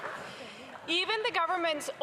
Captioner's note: some Applause